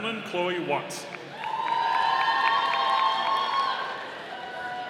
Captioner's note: audience cheering